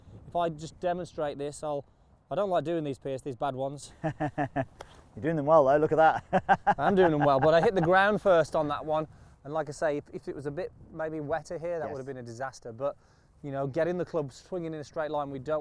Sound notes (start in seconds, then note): 6.2 laughs